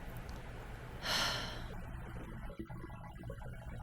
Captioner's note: sigh